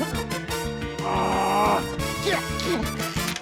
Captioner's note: grunts; strains